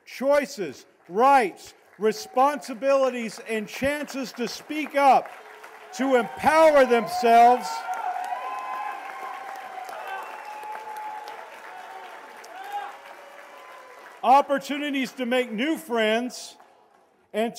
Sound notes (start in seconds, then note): 8.1 cheers and applause